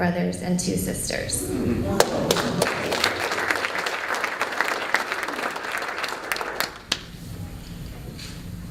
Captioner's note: applause